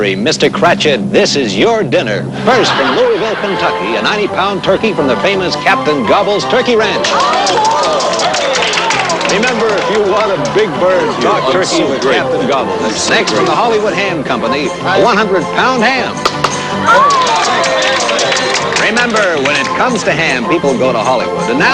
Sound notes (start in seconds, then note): 7.0 clapping; 16.6 clapping, exclaiming